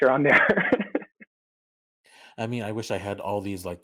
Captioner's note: soft laughter